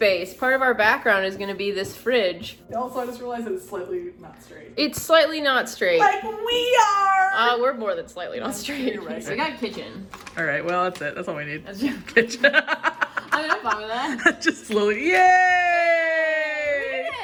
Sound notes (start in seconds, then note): 6.2 laughing; 12.2 both laugh